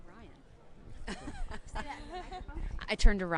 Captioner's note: laughing